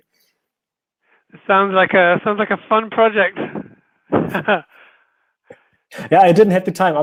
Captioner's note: laughing